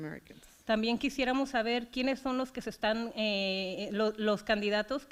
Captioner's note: foreign language